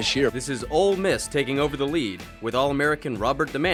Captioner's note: voiceover